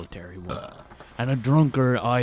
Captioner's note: belch